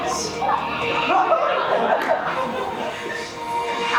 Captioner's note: audience laughs